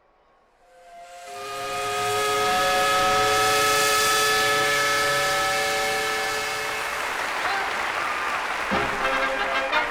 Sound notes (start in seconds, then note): 0.5 steam whistle; 8.7 marching band music